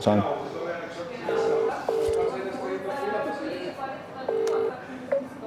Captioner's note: phone ringing